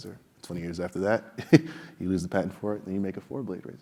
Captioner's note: laugh